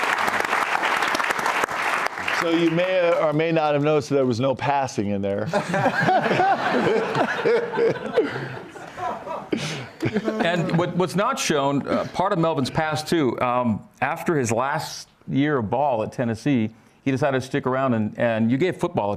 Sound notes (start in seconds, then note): 0.0 cheers and applause